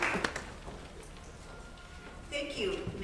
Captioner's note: applause